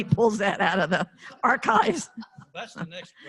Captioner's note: laughter